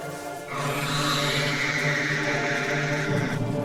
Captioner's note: dragon hisses